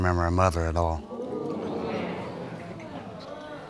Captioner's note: audience exclaiming